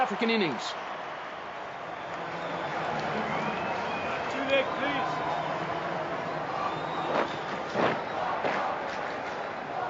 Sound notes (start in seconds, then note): 7.6 scraping